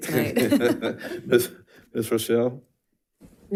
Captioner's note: board members laughs